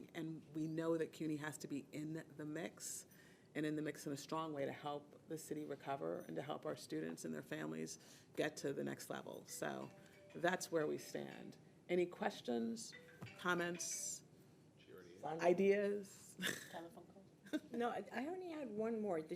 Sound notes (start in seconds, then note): 9.5 phone ringing; 12.8 phone ringing; 16.4 laughing